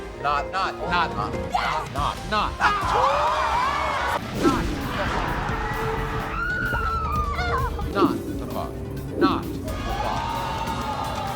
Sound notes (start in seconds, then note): 2.6 screaming; 9.2 yelling